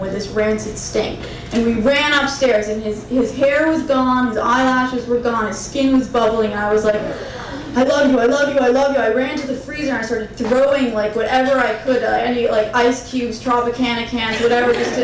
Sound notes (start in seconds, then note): 6.7 crowd murmuring